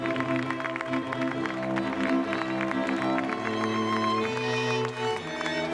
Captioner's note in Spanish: aplausos